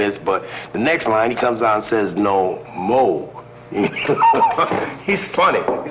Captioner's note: laughing